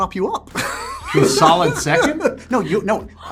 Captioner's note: laughs